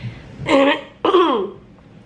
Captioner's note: clears throat